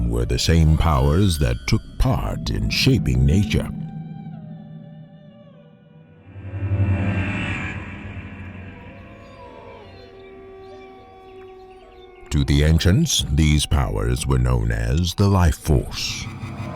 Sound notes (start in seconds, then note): 6.6 eerie music; 8.2 wolves howling